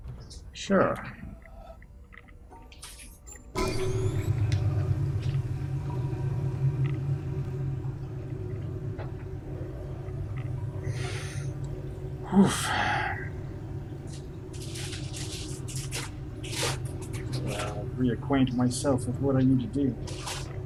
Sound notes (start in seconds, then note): 10.9 inhales